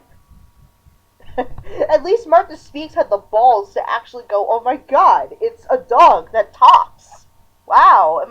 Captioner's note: chuckling